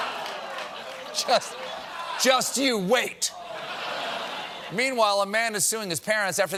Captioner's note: laughter